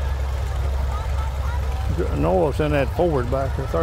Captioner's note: revving continues